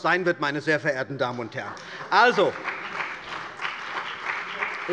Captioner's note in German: Beifall bei der CDU und dem BÜNDNIS 90/DIE GRÜNEN